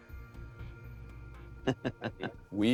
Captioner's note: chuckles